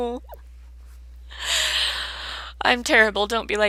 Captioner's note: inhales